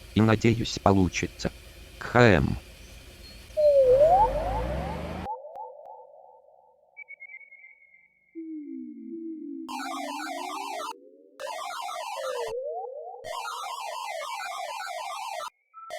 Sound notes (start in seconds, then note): 3.5 sounds of alien signals